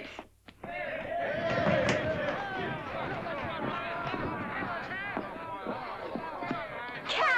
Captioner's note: excited chatter & commotion